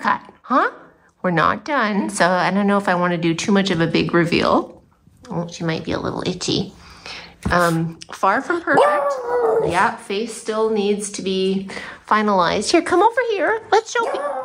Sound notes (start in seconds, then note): 8.8 howling; 14.1 howling